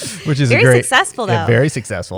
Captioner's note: laughter